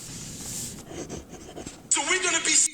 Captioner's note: pen scribbles